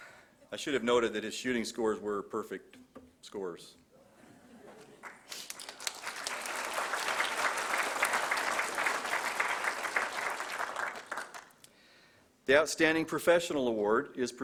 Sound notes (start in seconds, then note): 4.8 applause